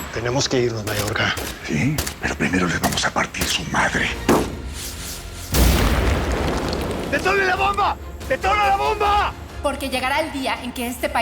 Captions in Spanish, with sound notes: - TENEMOS QUE IRNOS, MAYORGA. - SÍ, PERO PRIMERO LES VAMOS A PARTIR SU MADRE. [Disparo] [Estruendo] - ¡DETONEN LA BOMBA, DETONEN LA BOMBA! - PORQUE LLEGARÁ EL DÍA EN QUE ESTE PAÍS